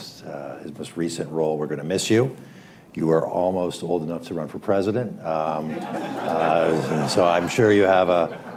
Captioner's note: laughter